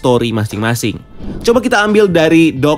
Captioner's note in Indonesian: suara transisi